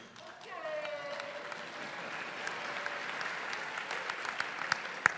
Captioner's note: audience clapping